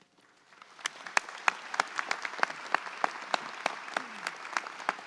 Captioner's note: audience applauds